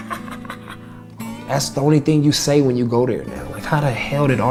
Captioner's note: laughs